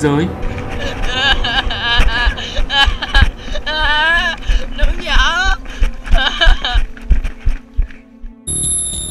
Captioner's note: crying